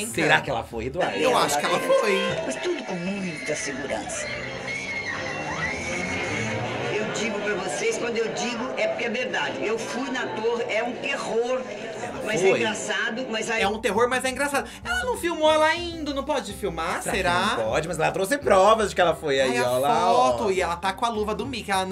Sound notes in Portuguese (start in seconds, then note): 4.0 gritos